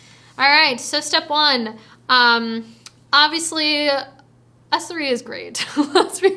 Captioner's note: chuckles